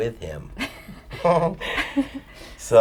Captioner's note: laughs